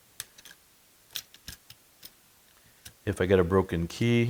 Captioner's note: metal clattering